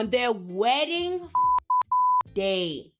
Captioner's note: beep